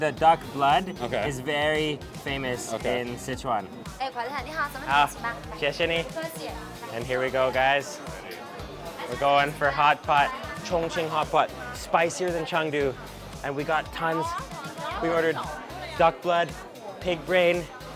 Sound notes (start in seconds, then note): 3.9 woman speaks in a foreign language; 5.5 speaks in a foreign language; 6.4 woman speaks in a foreign language